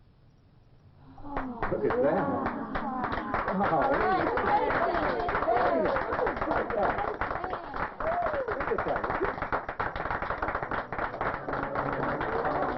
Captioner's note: clapping and cheering